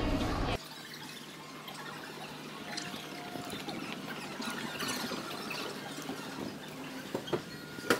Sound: sped up video sounds

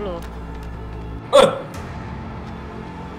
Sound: scream

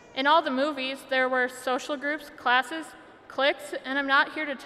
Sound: none

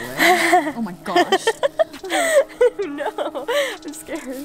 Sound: laughing

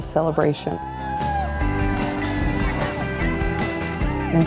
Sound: crowd cheering

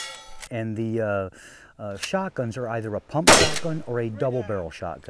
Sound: gunshots/plinking sounds

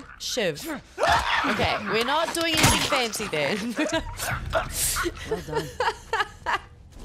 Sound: laugh

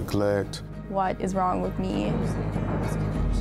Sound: thunder claps loudly

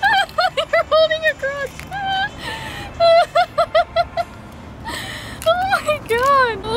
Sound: laughs

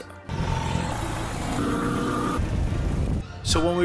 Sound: motorcycle sounds

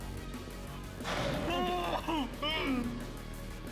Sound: wails

